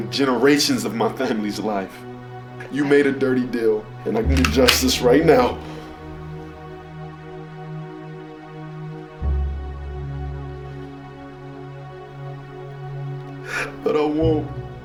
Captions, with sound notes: generations of my family's life. You made a dirty deal. (gun clicking) And I can do justice right now, (crying) but I won't,